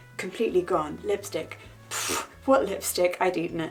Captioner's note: scoffs